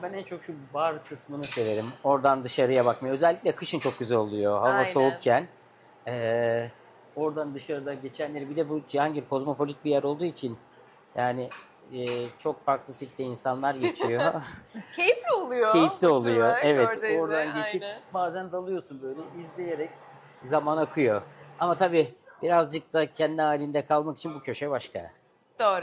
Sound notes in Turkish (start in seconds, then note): 13.8 kahkaha